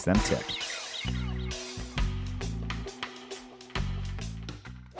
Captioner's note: logo swooshing